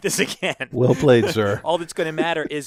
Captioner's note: laugh